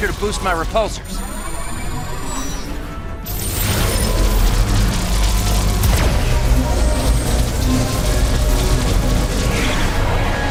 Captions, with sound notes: to boost my repulsors. [ZAPPING] [ELECTRICAL HUMMING]